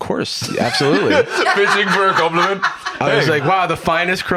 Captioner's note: laughs